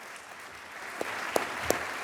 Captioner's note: applause